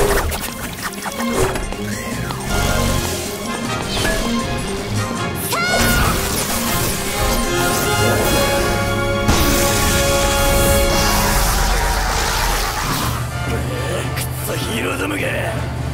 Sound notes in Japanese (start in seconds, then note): 9.3 スパーク音